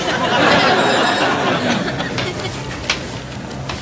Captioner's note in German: Klingel läutet